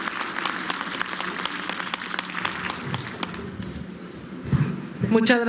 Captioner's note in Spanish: aplausos